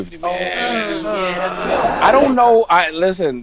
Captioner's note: group agreeing